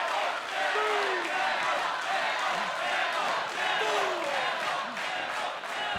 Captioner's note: fans chanting